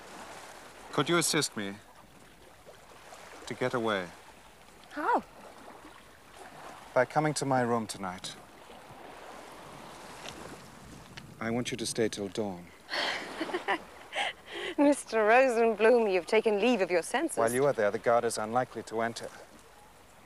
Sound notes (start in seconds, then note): 14.0 laughing